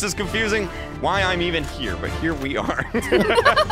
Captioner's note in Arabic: يضحك; تضحك